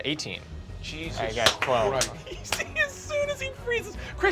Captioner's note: laughs